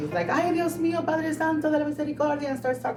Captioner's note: speaking in Spanish